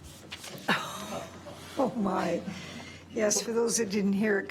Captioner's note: laughs